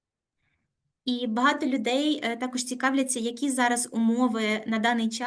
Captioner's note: speaking Ukrainian